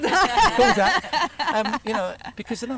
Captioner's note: laughter